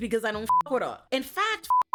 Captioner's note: beep